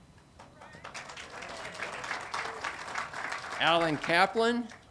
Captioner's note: audience applauding